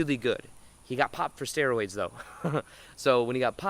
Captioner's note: laughing